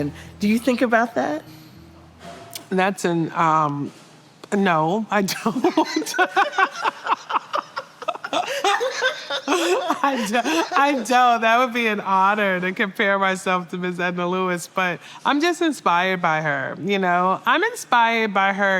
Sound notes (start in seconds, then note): 5.3 laughter